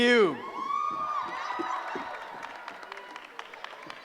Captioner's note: cheering